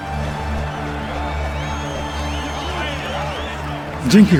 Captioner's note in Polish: ludzie gwiżdżōm i wiwatujōm